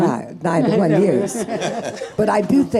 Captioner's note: audience laughing